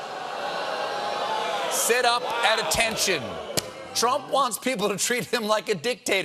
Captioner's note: audience reacts